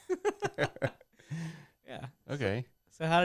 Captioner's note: laughing